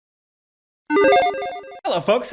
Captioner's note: video game sound